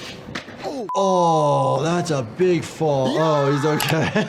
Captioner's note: beeping; laughing